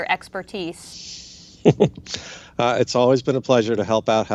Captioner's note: chuckles